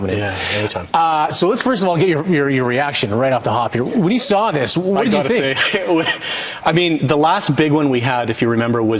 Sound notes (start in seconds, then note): 5.0 chuckles